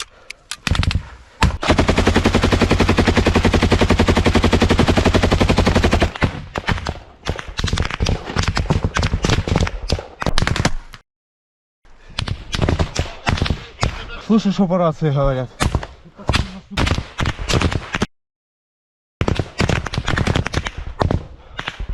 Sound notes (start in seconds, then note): 1.6 shoots from machine gun, the Russians respond with fire